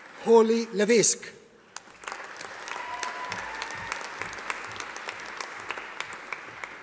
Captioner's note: audience applauding